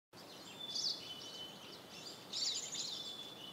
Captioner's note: birds chirping